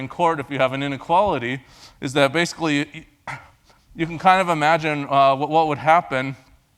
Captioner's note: cough